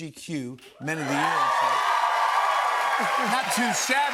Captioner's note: cheers and applause